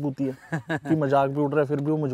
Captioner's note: Laughing